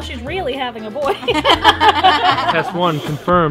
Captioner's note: all laughing